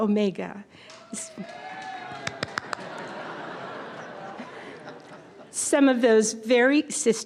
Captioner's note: applause